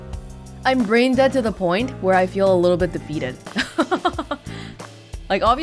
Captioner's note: chuckles